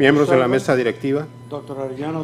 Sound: speaking foreign language

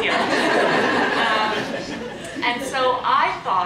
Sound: audience laughs

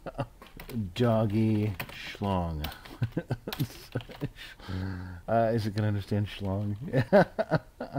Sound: laughter; laughing; haHaHa

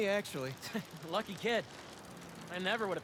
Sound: laugh

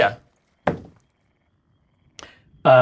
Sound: dice rolls again

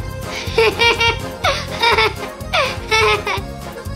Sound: laughing

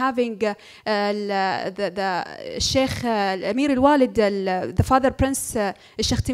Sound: foreign language

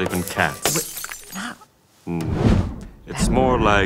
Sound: glass breaking

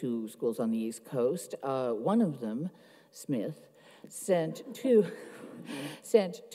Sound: chuckles

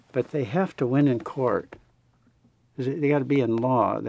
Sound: none

